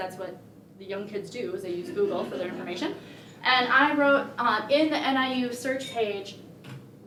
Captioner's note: laughter